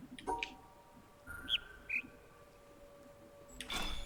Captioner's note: bird chirps high-low